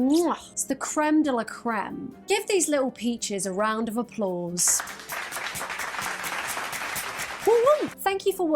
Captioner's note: clap track